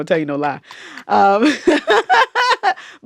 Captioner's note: laughter